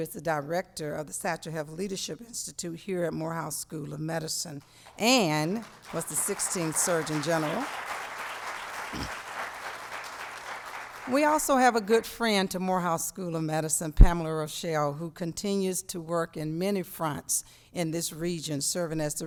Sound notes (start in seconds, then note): 4.7 applause